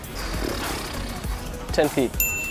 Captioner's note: bell Dings